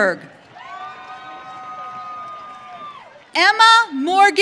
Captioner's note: audience cheering